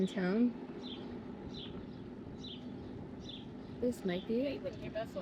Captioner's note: birds chirping